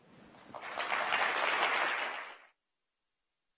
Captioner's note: applause